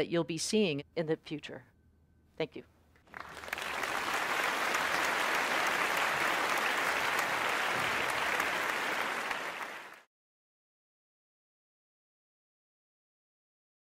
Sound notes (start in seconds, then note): 3.0 applause